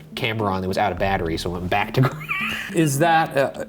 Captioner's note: chuckles